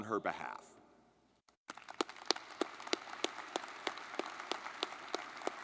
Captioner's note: audience clapping